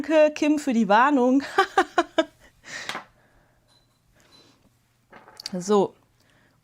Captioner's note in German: Gelächter